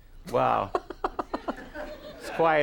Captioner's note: Conan laughs